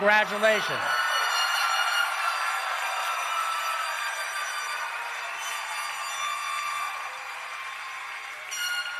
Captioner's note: cheering and Applause